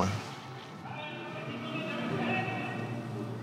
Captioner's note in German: Ferne Stimme aus Lautsprechern